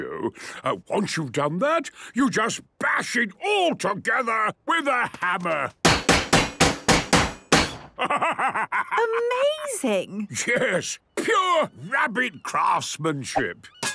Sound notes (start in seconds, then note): 5.9 metallic bashing